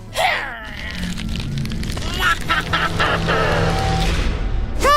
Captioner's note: grunting; evil laughter